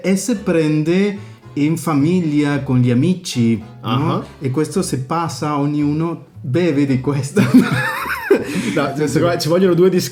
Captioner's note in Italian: risate